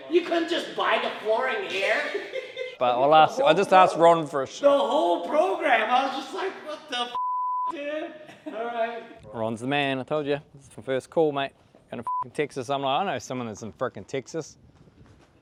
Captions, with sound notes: You couldn't just buy the flooring here? - But I'll ask, I just asked Ron for a- - The whole programme. I was just like what the (beep), dude? All right. - Ron's the man I told you. This is from first call, mate. Going to (beep) Texas. I'm like, I know someone that's in fricking Texas.